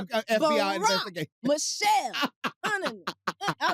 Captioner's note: laughs